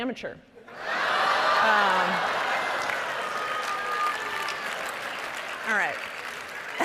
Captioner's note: audience laughing and applauding